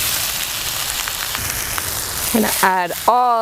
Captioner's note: onions sizzling